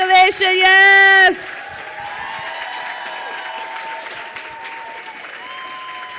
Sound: crowd cheering and applauding

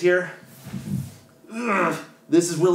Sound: grunts

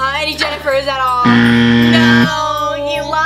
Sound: buzzing

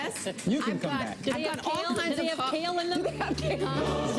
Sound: murmuring

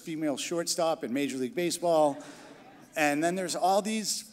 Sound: crowd laughing

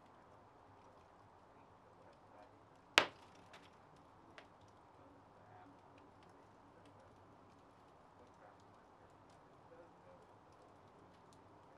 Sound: crackling fire

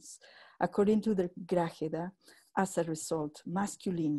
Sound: spanish speech

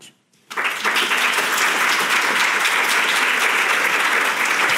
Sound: audience applauding

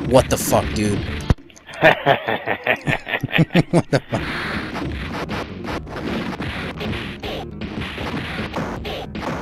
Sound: evil laugh!

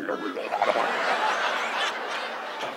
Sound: Don gurgling; audience laughs

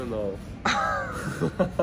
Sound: chuckles; laughs

